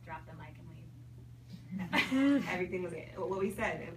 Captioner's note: people giggle